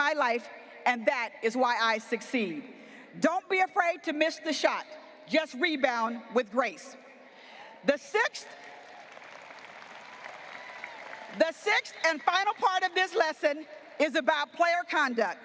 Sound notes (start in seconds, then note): 8.6 audience applauding